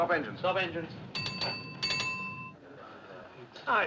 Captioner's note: bell Ringing